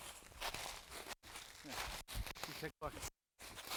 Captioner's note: speaks faintly